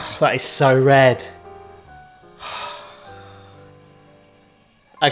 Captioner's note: sighs